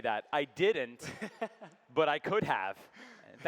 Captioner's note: laughing